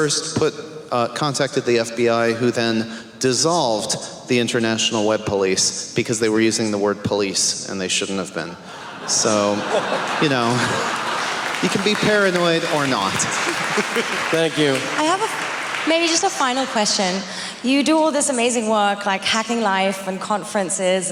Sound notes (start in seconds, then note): 8.8 laughing; 15.1 applause